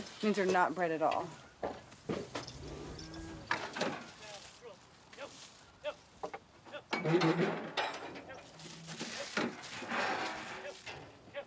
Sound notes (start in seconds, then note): 1.8 cows lowing; 2.9 ranchers shouting; 7.2 gate squeaking